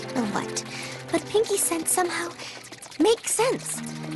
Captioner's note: growls